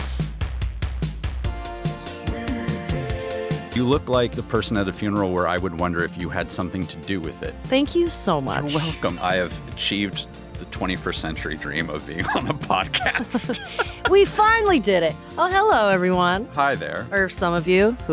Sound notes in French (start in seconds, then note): 0.5 musique enjouée; 12.2 rires